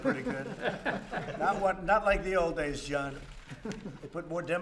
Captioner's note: laughter